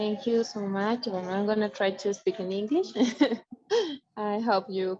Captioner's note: chuckles